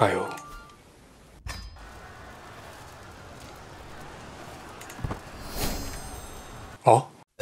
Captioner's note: click